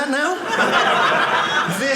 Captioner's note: audience laughing